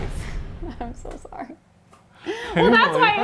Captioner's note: ominous music; laughing